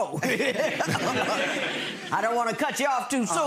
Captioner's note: audience laughs